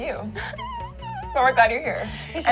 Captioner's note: whimpering